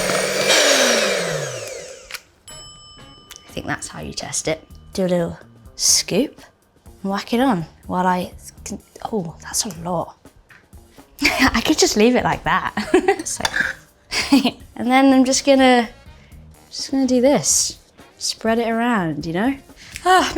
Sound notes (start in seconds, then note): 0.0 whirring stopping; 0.9 bell dinging; 12.7 Bella laughing